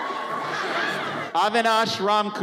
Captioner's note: audience cheers